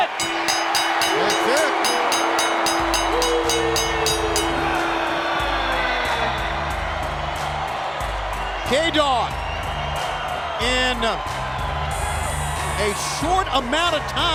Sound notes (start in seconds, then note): 2.7 bell ringing; 6.4 crowd cheering